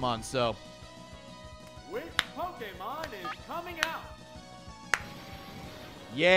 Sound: slow claps

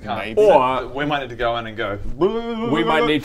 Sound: brrrrrr

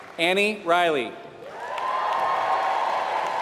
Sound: applause

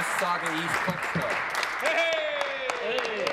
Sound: applause

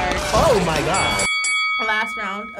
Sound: bell dings

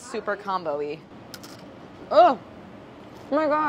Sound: crunching

